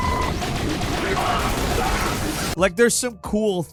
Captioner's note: guns firing